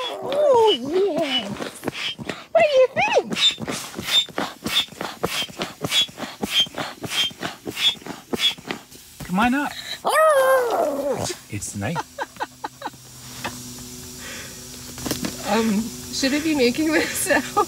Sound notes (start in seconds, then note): 0.0 roar; 10.3 roar; 11.8 laughing; 13.1 hissing sound